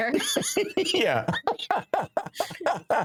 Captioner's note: laughing